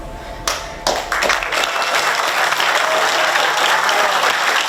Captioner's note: audience clapping